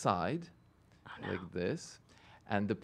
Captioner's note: whispering